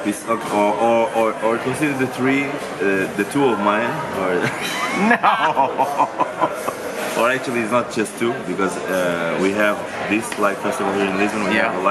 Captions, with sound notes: - Or consider the three, the two of mine, (laughs) or actually it's not just two, because we have this Like Festival here